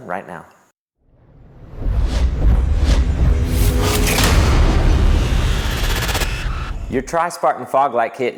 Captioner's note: sound effect